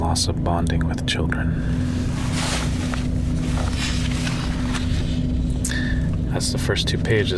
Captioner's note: paper rustling